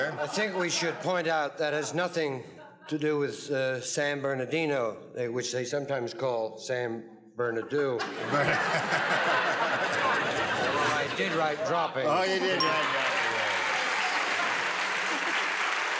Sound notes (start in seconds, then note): 8.0 laughter; 12.5 applause